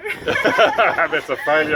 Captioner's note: laughs